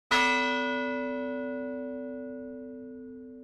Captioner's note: bell rings